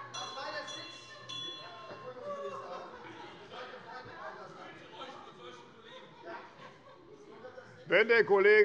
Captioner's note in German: Glockenzeichen der Präsidentin